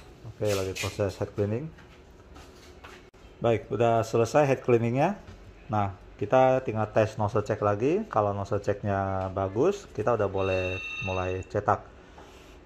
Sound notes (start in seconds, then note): 10.3 phone ringing